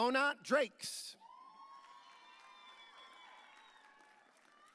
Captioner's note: audience cheering